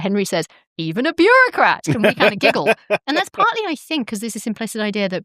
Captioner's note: laughter